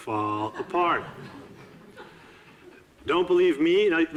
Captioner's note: audiences laughing